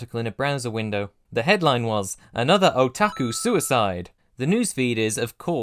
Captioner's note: ding!